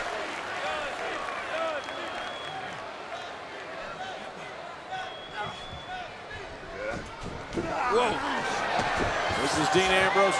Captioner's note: applause